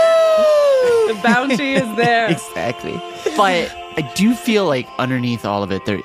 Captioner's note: laughs